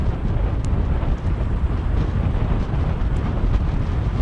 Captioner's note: wind blowing